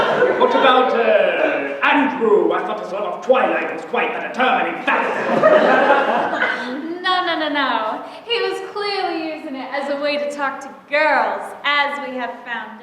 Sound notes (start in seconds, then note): 4.9 laughter